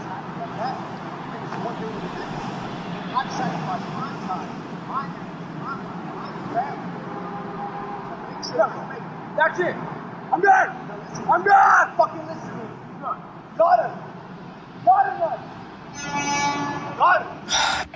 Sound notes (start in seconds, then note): 0.0 noisy city; 7.0 city train horn; 15.8 bus horn honking